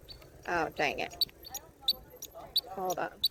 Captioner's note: turn signal chirps irregularly